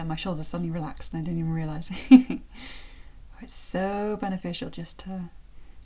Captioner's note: chuckle